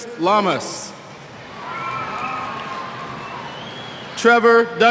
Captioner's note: cheers